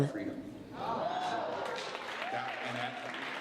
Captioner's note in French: L'audience applaudit